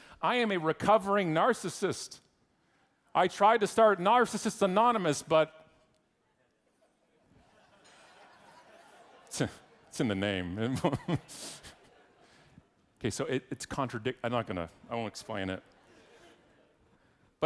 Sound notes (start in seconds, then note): 7.2 audience laughing; 12.1 laughs; 15.8 audience laughing